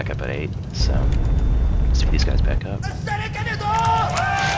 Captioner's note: laughs